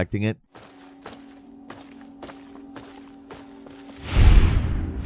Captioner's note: footsteps thumping; animated swoosh